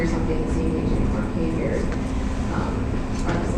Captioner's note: murmurs